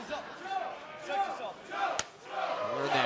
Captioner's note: fans chanting